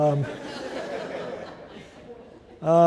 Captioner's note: laughter